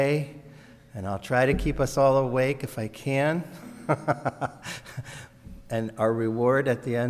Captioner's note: laughs